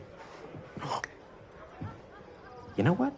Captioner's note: gasps